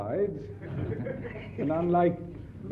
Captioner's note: audience laughs